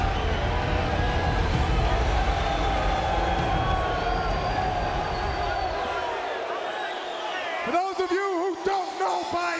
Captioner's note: crowd cheering